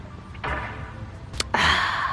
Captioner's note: interrupted by hammering; sigh